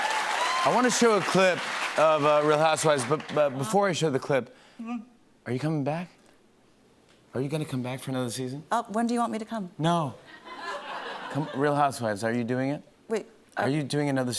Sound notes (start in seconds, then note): 10.3 laughter